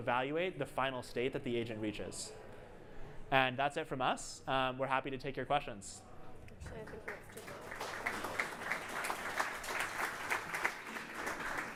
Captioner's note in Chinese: 掌聲